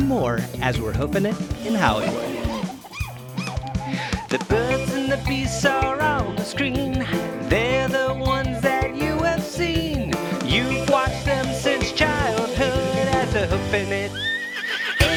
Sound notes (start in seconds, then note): 4.9 roars; 8.7 cat meows